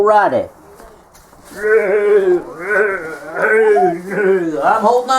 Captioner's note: neigh neigh neigh